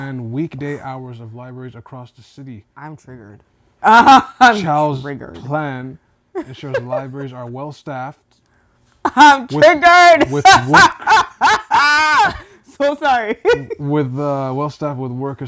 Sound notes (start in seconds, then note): 10.2 laughing